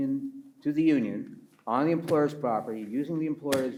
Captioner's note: taps table